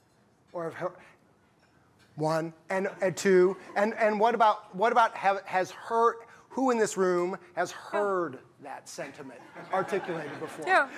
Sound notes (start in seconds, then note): 3.4 laughter; 9.4 laughter